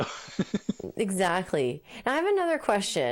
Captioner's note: laughing